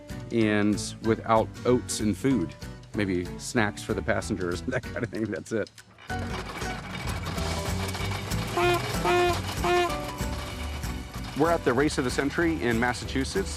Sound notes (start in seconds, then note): 7.3 engine grinding; 8.4 horn honking